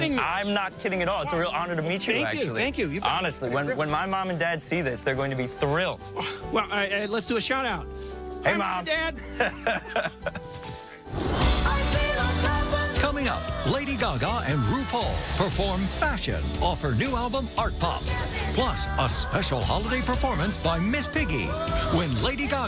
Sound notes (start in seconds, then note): 9.2 laughs